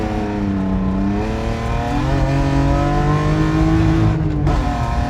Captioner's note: car revving loudly